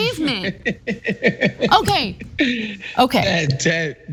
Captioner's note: laugh